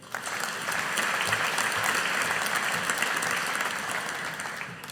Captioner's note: audience applauding